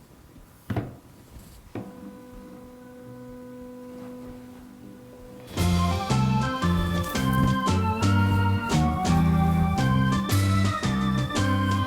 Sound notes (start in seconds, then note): 2.0 device whirs; 5.4 upbeat whimsical music